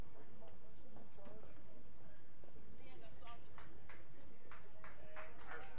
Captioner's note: people murmuring and applauding